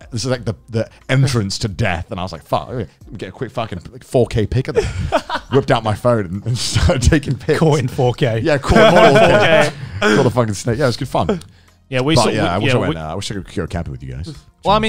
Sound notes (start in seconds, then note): 8.7 laughing